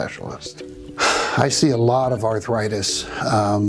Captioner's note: sighs